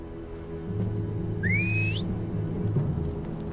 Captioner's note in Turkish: Islık çalıyor